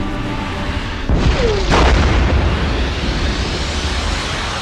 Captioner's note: ship booming